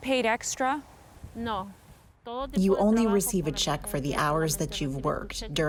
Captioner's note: through translator